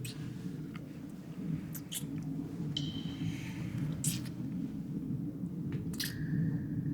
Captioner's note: water drips; wind blows